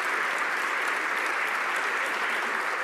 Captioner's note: some Applause